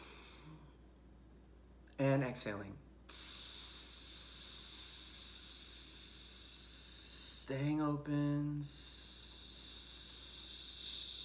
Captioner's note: inhales; hisses